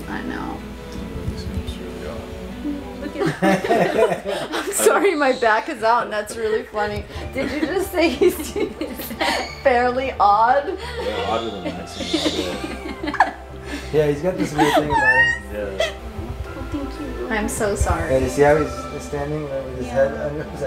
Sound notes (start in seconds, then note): 3.2 everyone laughing; 12.9 everyone laughing